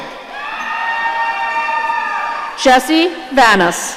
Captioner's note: audience cheering